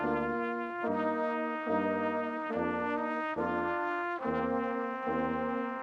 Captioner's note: none